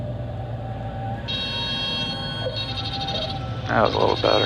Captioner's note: loud beeping